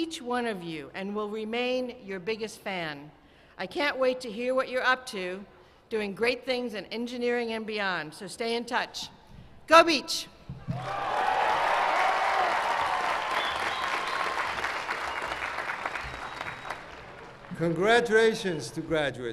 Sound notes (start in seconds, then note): 13.7 cheers and applause